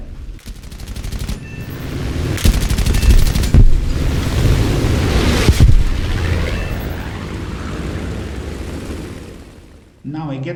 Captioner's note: aircraft Engines ,Gunfire, Flying Sounds